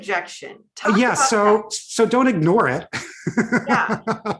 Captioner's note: laughs